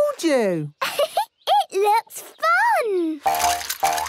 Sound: giggles

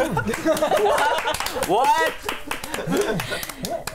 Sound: clapping

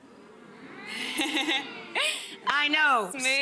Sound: audience exclaiming

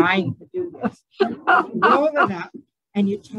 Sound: laughing

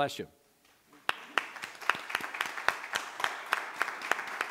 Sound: applauding

